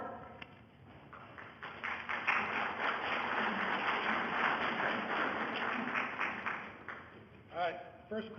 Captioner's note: audience applause